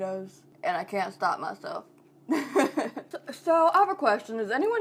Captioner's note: laughing